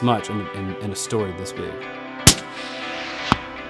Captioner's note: gun Shot